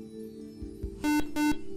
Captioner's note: buzzer